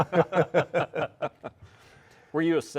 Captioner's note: all laughing